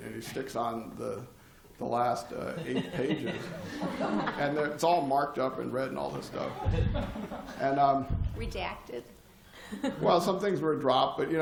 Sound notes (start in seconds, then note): 2.4 laughter